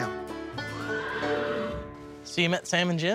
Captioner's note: horses neighing sound